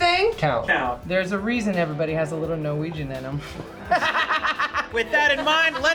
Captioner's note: laughs